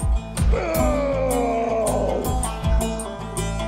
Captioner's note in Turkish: Bağırıyor